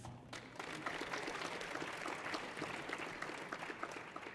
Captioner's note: audience applauding